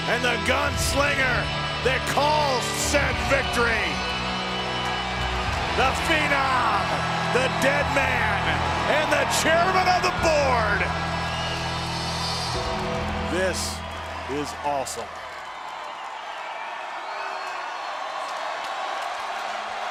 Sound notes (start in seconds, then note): 4.8 audience cheers; 16.8 audience cheers